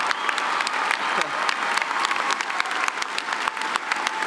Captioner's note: laughing